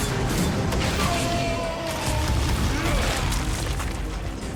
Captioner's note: yelling